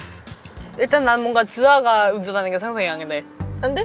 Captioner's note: talking resumes